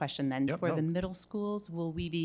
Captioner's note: speaks faintly